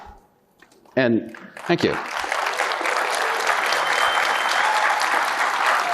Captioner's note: audience applauding